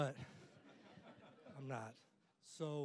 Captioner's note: audience laughing